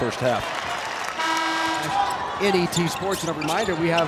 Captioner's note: horn blasts